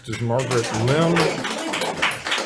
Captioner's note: audience applauds